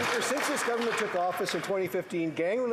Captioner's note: some Applause